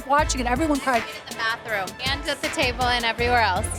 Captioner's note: laughing